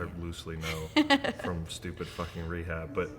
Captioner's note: laughing